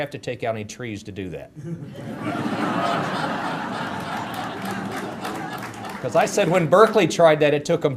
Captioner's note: audience laughter